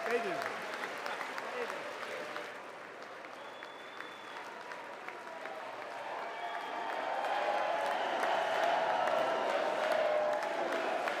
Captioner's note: applause